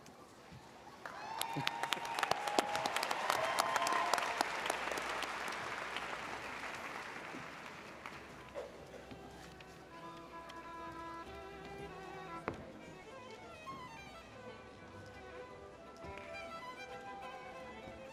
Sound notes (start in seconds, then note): 1.0 audience applauding; 9.4 pleasant string music